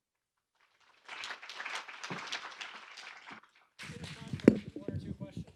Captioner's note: audience applauds